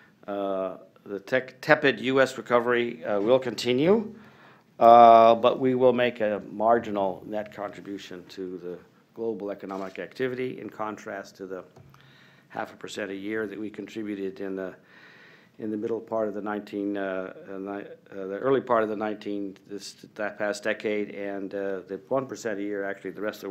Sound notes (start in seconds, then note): none